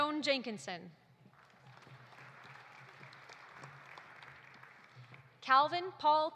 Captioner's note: audience applauding